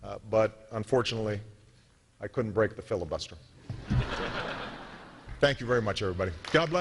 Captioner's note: applause